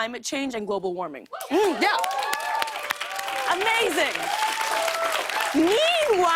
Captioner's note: cheers and applause